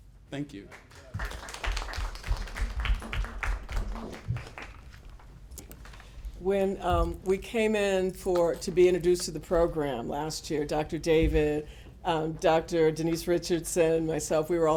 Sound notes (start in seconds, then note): 0.5 applause